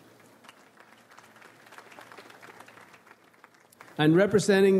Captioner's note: slight applause